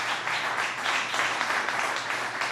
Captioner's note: applause